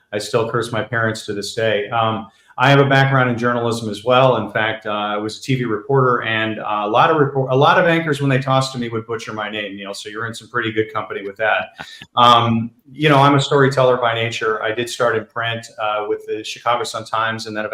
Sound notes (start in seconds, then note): 11.6 laughs